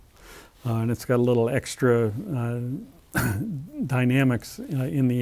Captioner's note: cough